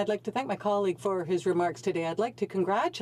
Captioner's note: speaking French